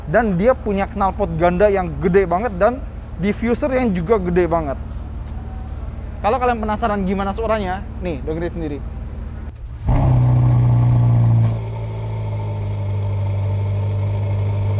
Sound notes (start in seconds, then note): 9.3 exhaust sound from Ferrari SF90 Spider engine